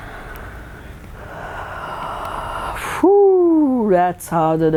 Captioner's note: sigh